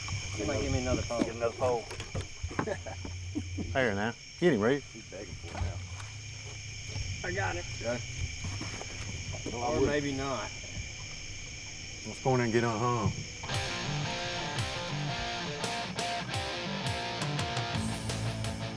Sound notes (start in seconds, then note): 2.4 hearty laughing; 13.5 upbeat rock music